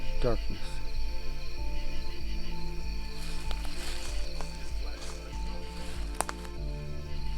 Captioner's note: insects buzzing